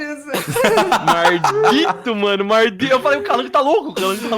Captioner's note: laughing